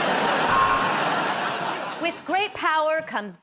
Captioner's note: buzzer buzzes